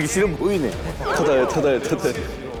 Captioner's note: trudging